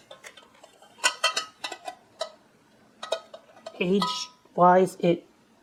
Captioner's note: clanking of lid